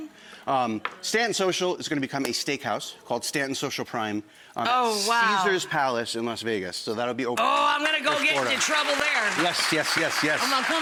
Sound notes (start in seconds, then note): 7.4 audience clapping